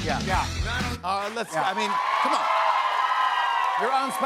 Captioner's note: cheers and applause